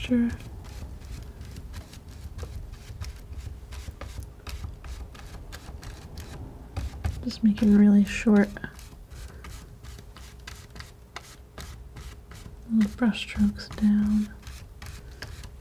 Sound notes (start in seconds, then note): 0.2 scratching; 8.6 scratching